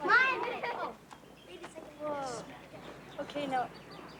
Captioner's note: children chattering